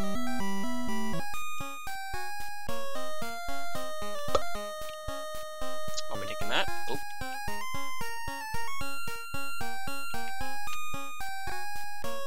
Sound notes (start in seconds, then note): 4.3 pop